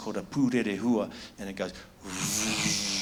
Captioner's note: imitates buzzing